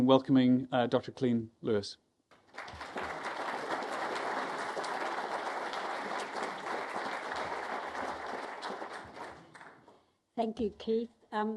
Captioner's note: applause